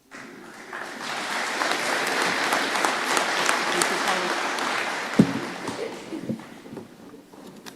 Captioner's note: applause